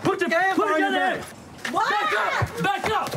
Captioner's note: screams